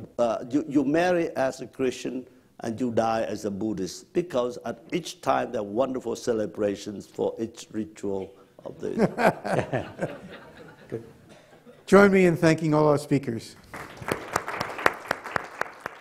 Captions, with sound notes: you marry as a Christian, and you die as a Buddhist, because at each time, there are wonderful celebrations for each ritual of the-- (audience laughs) - Join me in thanking all the speakers. (audience applauds)